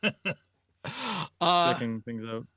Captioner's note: laughs